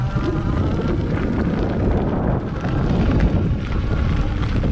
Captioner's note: bike engine roaring